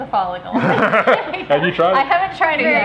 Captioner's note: all laughing